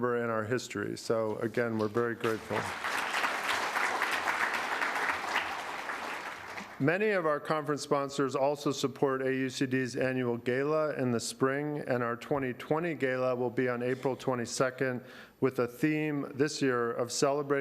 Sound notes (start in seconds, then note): 6.0 applause